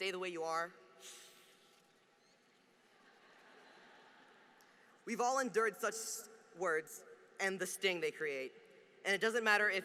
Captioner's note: laughter